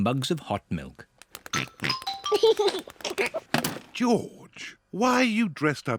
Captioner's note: oinks and giggles